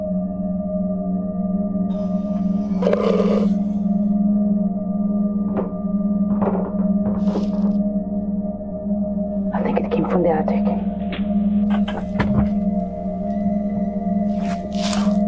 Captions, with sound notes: (growl) (footsteps) I think it came from the attic.